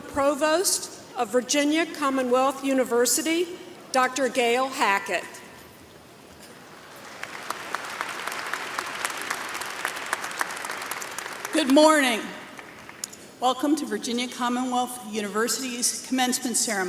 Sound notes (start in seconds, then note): 6.7 applause